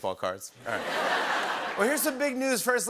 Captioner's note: laughter and applause